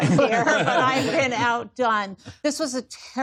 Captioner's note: laughter